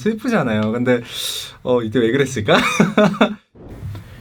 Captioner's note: haha